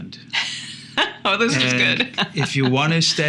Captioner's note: laughing